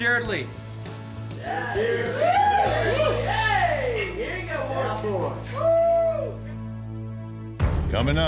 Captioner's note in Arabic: الجميع يهتفون